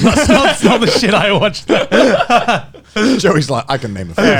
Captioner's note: all laughing